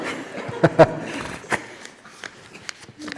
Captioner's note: laughter